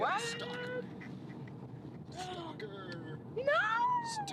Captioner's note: none